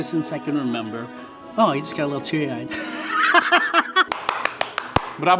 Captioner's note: laughs; claps